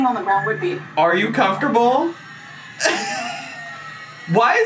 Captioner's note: chuckles